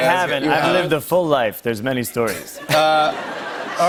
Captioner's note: laughter